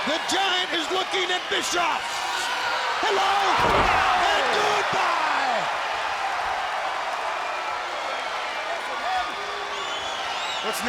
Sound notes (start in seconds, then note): 5.2 audience cheers